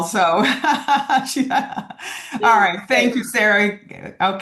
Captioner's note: laughs